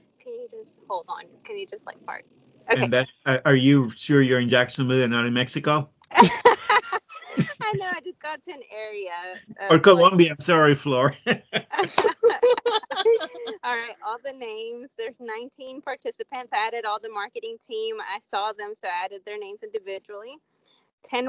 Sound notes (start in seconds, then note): 6.2 all three laughing; 11.3 all laughing